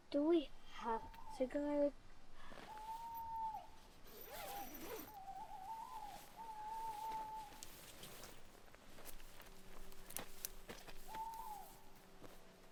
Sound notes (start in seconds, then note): 4.2 owl hooting